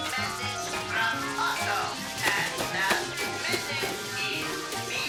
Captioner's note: short circuiting